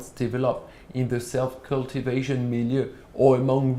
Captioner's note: non-english speech